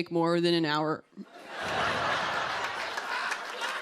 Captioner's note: laughter